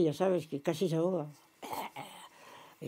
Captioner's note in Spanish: carraspea